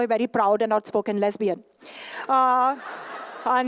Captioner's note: laughter